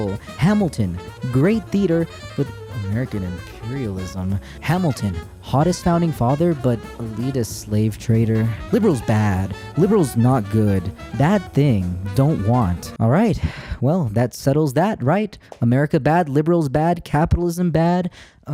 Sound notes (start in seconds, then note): 13.4 sighs